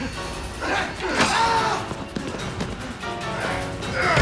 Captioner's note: screams; grunting